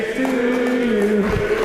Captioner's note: applause